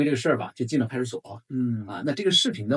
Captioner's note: nonverbal grunt as interjection